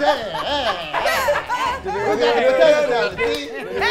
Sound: laughing

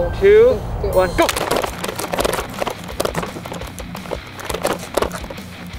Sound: water guns shooting

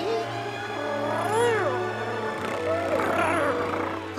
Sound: purring

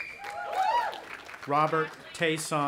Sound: audience applauding and cheering

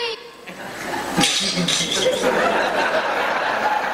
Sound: man laughs

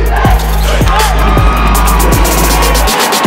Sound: cheers

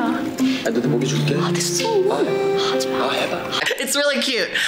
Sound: speaking Korean

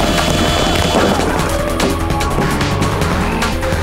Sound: screaming; grunting; growling

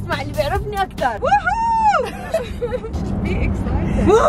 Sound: laughs

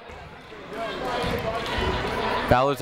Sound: people shouting in the crowd

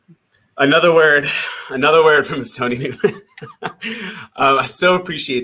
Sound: laughs

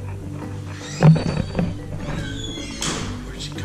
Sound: door open and closes

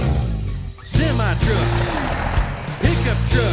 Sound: engine revs; engine rumbles; horn beeps

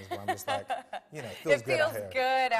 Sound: laughing

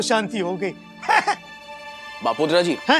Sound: chuckling

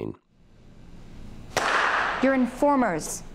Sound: loud clap

